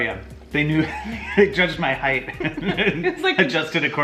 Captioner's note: laughs